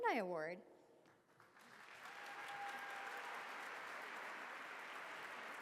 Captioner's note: applause